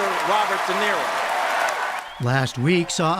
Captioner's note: cheering and applause